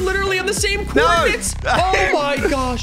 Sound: laughs

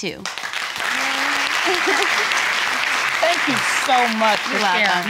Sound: audience applauding

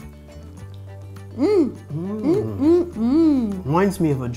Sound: simultaneously mmm-ing

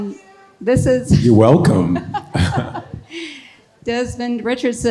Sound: laughs

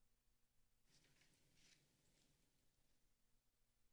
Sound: paper rustling

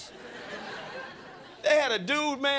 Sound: crowd laughing

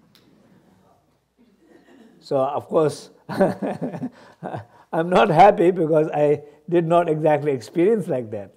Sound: laughs

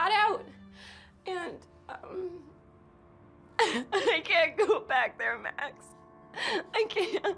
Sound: sobs

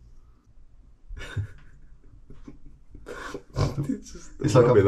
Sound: chuckles

